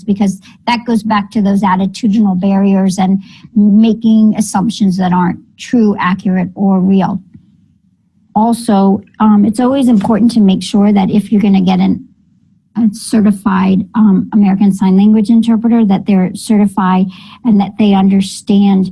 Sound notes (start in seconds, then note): none